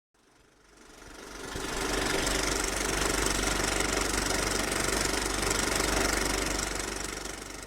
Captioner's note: movie projector sounds